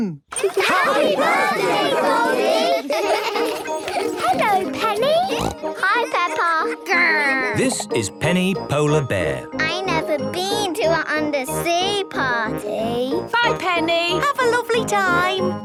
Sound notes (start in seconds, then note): 2.9 laughter; 4.0 snorting